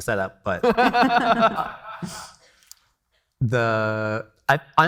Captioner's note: everybody laughing